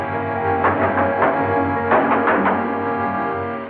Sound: knock On Door

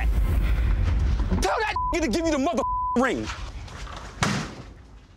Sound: beep

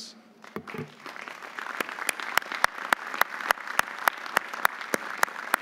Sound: audience applauding

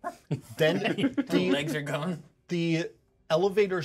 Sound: laughs

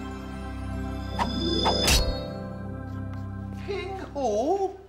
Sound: sword swooshing

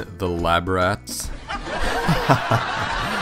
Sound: laugh track

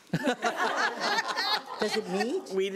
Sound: laughs

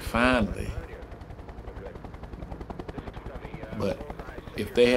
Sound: helicopter engine running

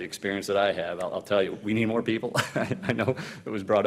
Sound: laughing loudly

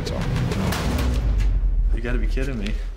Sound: drawer clanks

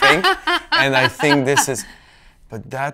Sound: laughs

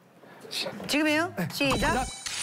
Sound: humph

